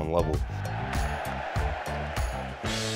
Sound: cheering

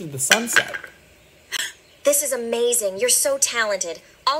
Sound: gasp

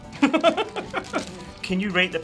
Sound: laughing

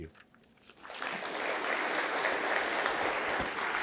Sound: applause

